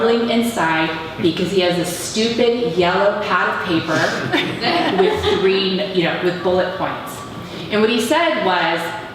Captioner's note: laughter